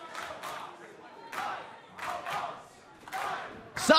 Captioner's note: fans chanting